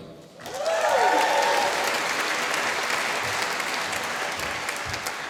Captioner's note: applause